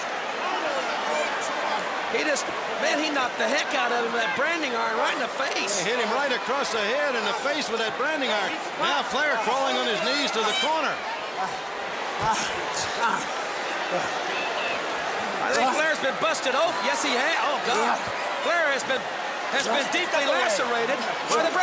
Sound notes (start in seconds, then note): 9.8 crowd chatter